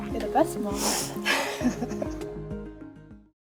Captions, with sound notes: You're the best mom. (soft laughing)